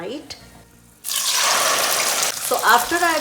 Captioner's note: sizzling